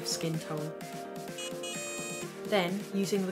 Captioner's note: device beeping